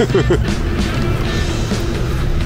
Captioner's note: Scratching